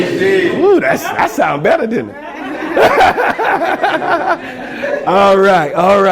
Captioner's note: laughs